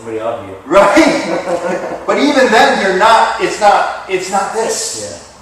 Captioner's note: chuckle